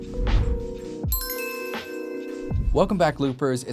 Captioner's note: upbeat music; logo dinging